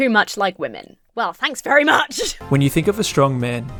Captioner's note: laughs